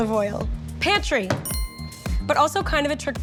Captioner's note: bell chimes